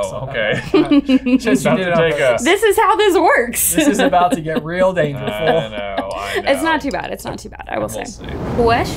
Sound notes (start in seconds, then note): 0.4 laughs